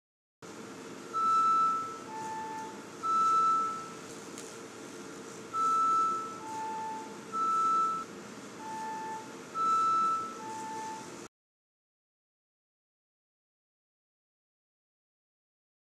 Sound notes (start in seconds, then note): 1.1 rhythmic beeping